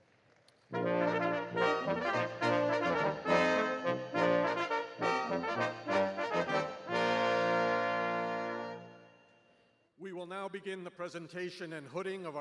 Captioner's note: applause